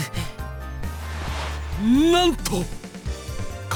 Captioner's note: incredulous gasp